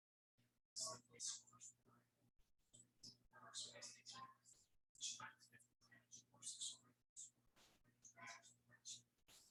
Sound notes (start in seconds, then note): 4.1 people chattering indistinctly